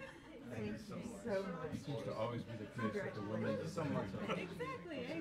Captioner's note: low chatter continues